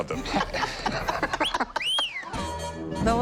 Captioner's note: laughter